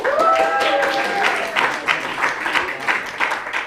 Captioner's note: applause